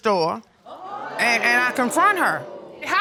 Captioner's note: audience exclaiming